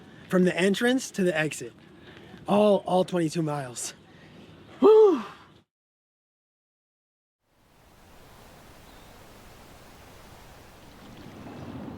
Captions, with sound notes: From the entrance to the exit, all 22 miles. (exhales)